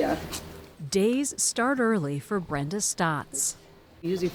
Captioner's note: voice-over